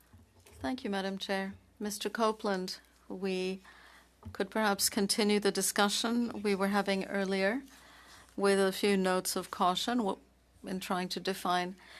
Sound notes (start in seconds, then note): 1.3 speaking French